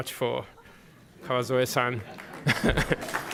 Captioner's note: applause; laughter